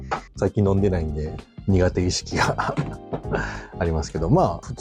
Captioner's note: laughs